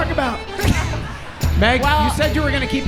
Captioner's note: all laughing